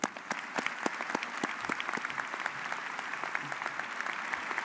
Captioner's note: audience applauds